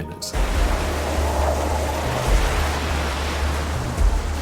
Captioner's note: waves crashing